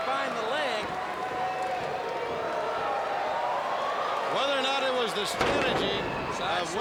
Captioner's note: crowd chatter